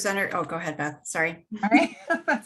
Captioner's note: laughs